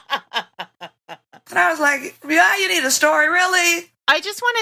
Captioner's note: laughter